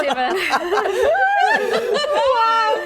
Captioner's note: laughing